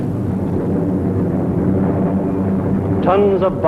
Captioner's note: plane engines humming